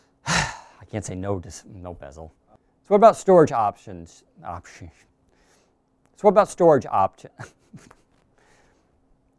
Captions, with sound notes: I can't say no, no bezel. So what about storage options? Options. So what about storage opt (giggles).